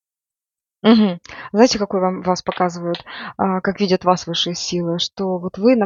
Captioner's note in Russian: откашливается